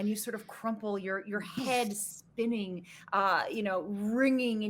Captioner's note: mimicking impact